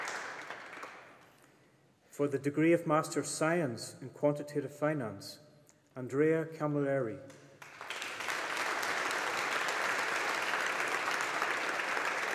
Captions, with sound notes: For the degree of Master of Science in Quantitative Finance. Andrea Camilleri. (AUDIENCE APPLAUDING)